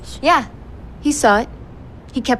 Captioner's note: none